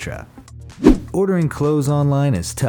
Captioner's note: air whooshes